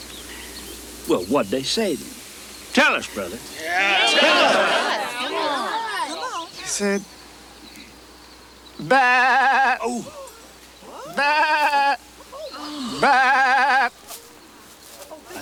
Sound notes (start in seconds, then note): 8.8 Crecencio bleats; 12.2 congregation gasp; 12.2 Crecencio bleats